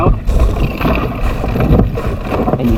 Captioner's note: glass falling